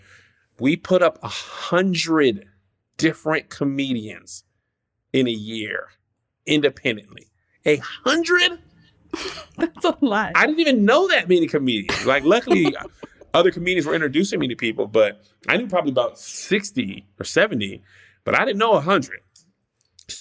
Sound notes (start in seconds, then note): 9.2 laughs; 11.8 laughter